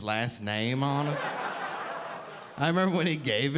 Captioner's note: audience laughing